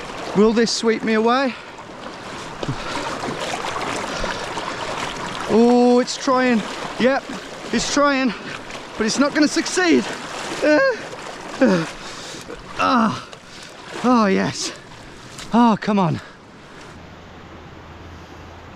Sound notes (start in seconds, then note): 2.5 splashing; 10.9 groaning